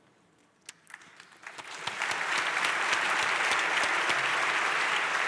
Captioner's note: audience applauds